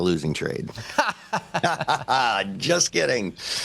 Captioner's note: laughter